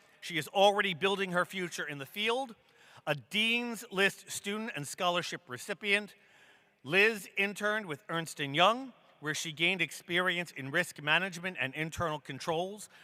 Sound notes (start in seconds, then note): none